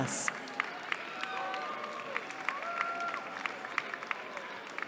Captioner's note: cheering